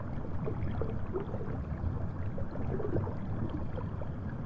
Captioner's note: water sloshes